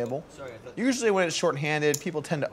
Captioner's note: players chatting